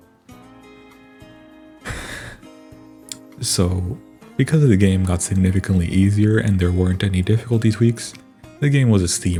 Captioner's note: sigh